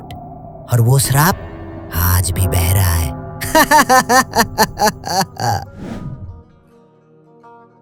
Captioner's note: Pisacha laughs away